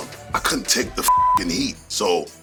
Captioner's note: beep